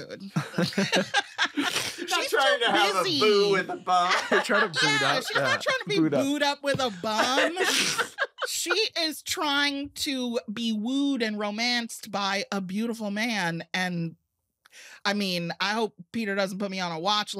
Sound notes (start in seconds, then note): 0.4 all laughing; 3.8 all laughing